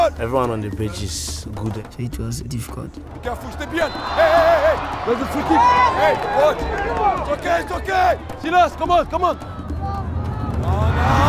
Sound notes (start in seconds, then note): 5.0 opposing team yelling; 9.9 suspenseful drum music